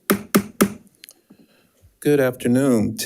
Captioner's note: gavel tapping